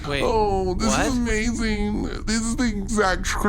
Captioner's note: fangirling